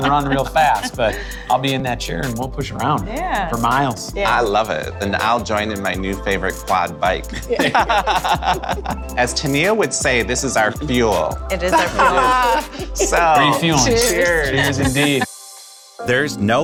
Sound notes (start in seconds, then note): 10.3 laughs